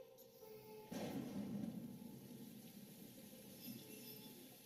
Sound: mysterious singing voice; raining

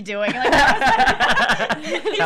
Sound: laughing

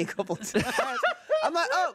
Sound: everyone laughs

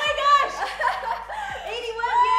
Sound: laughs

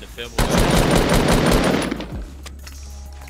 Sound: gunfire

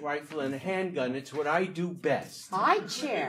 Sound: audience laughing

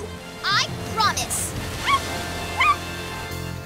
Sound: barking

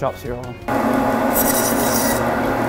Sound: saw sound

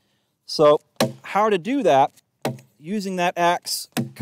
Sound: ax chops at tree

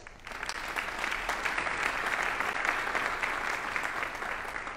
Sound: audience applauding

